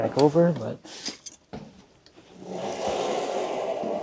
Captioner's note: device sliding